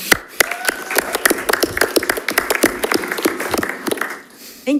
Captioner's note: audience applauding